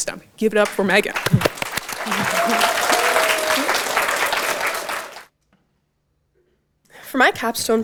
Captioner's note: audience Applause